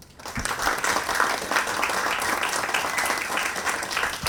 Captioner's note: audience applauds